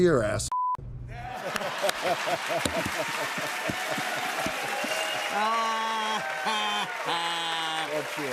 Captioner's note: laughter, cheers, applause